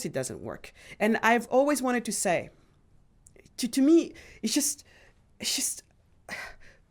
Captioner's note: sighs